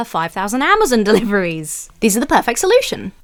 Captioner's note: chuckles